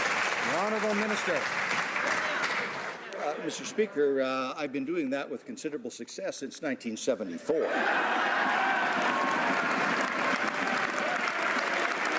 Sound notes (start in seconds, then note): 2.7 some Applause